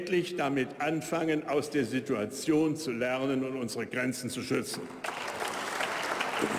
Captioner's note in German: Beifall bei der AfD